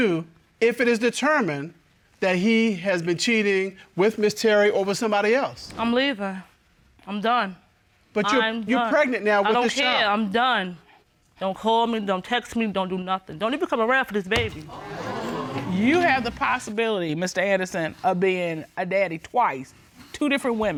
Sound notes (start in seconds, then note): 14.6 audience exclaiming